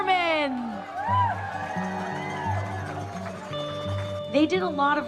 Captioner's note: appluase, cheering